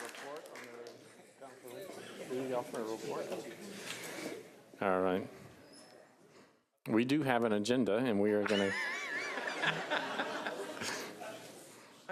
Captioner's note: applause